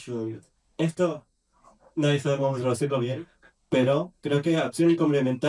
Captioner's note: in spanish